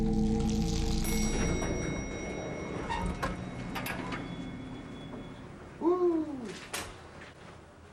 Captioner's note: elevator bell rings